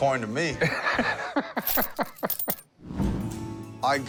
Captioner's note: laughs